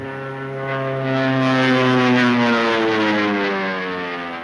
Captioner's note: engine whining